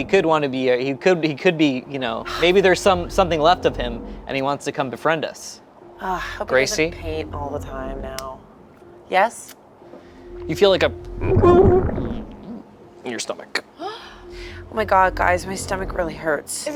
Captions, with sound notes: He could want to be a... He could be, you know... Maybe there's some something left of him, and he wants to come befriend us. - Gracie? - Hope he doesn't paint all the time now. Yes? - You feel like (groans) in your stomach. - Oh my god, guys, my stomach really hurts.